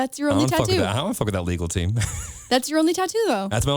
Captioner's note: laughs